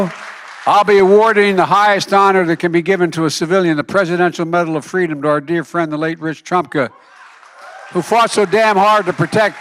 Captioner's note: applause